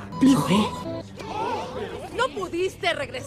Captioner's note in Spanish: surprise noises